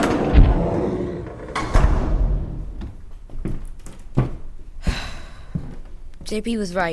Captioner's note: Cupcake roars; door closes